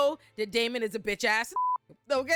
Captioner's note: beep